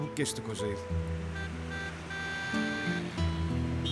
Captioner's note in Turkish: Korna sesi